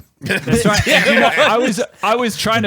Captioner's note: laughs